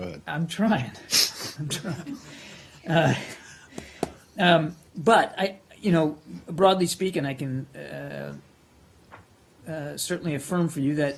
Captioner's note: laughter